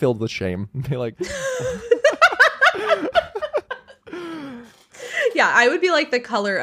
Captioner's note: laughs